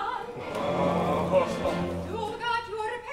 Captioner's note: MEN cheer